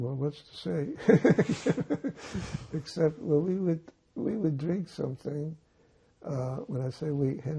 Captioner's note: laughing